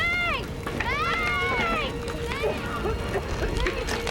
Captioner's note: coughing